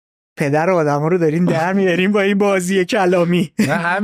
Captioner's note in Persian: خنده